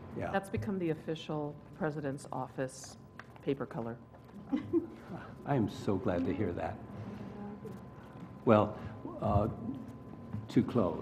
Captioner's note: laugh